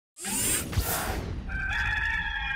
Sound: gears winding; rooster crows

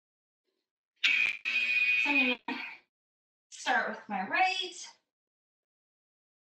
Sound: alarm blares

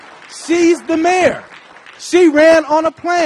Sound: applause

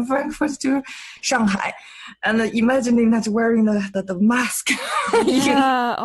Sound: laughs

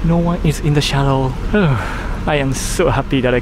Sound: sigh of relief

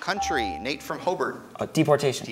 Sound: ding

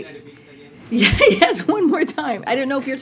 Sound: laughs

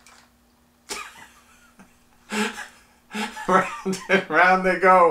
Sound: laughs

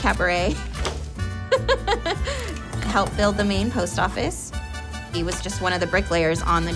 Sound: laughs

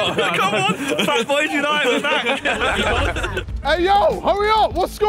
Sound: laughs

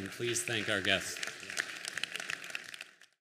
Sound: applause

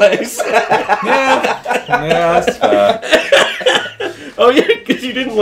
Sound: everyone laughing

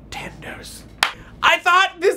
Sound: claps

